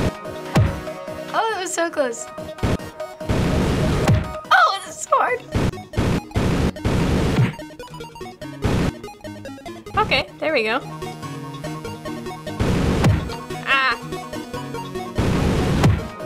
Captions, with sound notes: Oh, that was so close. (squealing) Oh, it's so hard. - Okay. There we go. Aah.